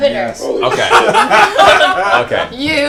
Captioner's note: all laugh